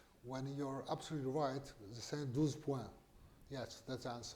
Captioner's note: non-english